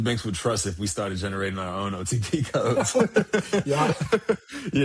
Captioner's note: laughing